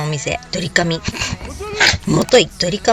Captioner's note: gasp